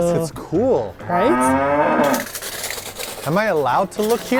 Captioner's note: cow groans